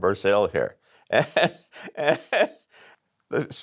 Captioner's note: laughs